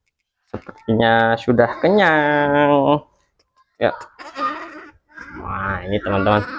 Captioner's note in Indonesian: tertawa